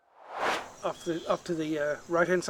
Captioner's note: air swooshes